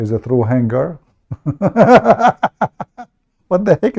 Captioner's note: Ketawa